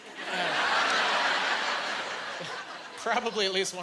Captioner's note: laughing